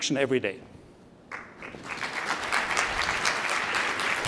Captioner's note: applause